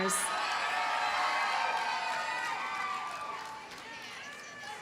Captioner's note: audience cheers and applauds